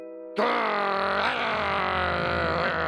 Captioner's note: growls